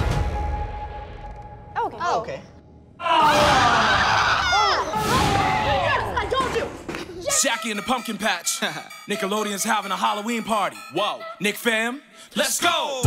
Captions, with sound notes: - Oh, OK. - Oh, OK. [screaming] Yes, I told you! Jackie and the Pumpkin Patch, Nickelodeon's having a Halloween party! - Whoa, Nick fam, let's go! - Let's go!